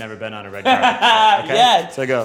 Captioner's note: Tan laughs